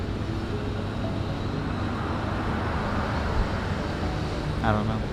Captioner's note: gentle piano music; traffic droning